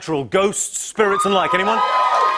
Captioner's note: cheers and applause